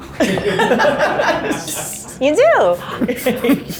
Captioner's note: group laughing